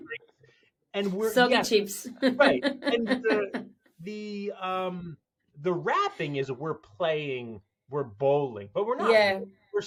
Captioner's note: soggy chips laughter